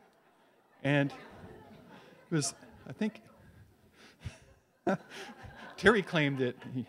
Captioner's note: audience laughs; laughs